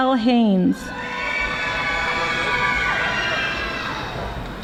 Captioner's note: audience screaming